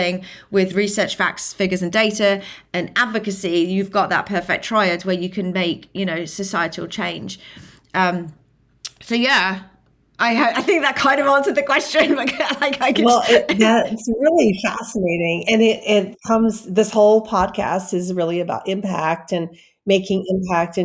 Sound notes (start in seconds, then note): 11.8 laughing